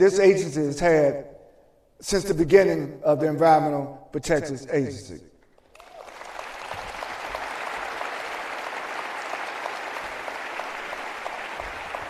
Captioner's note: applause